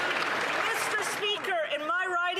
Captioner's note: applause